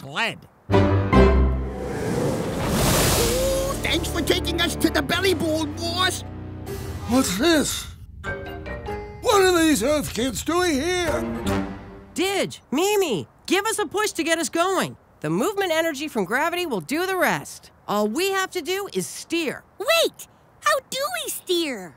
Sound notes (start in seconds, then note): 0.7 triumphant music; 1.6 wind rushes